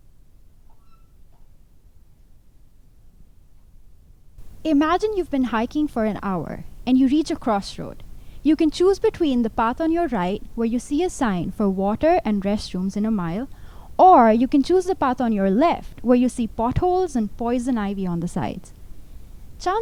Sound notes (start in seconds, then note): none